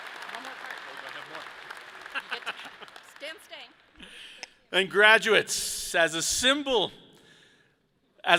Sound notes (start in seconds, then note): 2.2 laughs